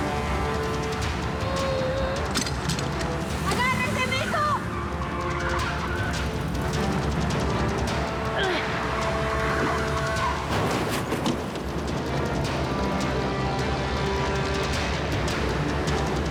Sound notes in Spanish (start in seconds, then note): 4.2 chirrido de neumáticos; 12.3 chocan